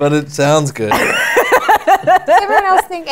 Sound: laughter

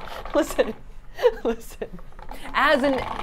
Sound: laughs

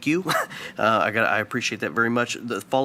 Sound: chuckles

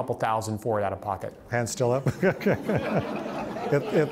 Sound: laughs

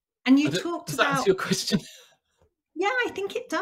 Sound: laughs

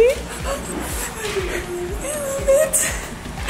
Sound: excited whispering

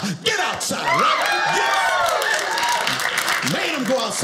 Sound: audience cheers

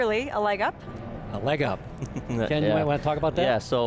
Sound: laughs

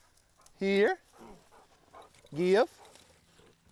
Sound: Belle panting

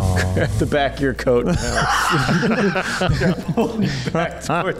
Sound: laughs

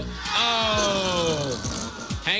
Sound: farting noise

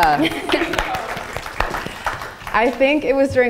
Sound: audience applauding

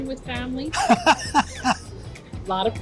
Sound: laughs

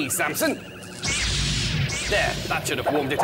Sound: zap!

